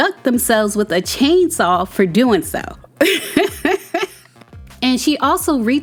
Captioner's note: laughs